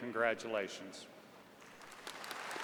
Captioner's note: applause